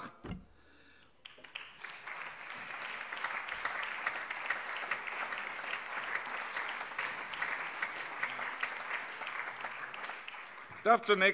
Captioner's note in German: Allgemeiner Beifall